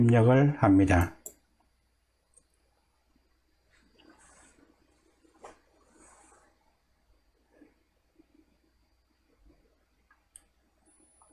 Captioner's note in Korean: 클릭